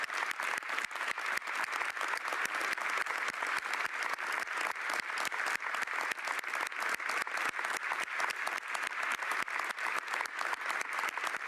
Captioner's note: applause